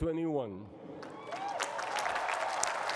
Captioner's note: cheering and applause